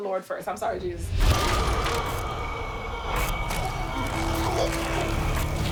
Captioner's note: moaning